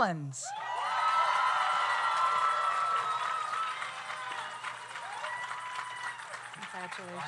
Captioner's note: audience cheers; audience applauds